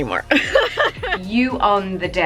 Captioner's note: laughs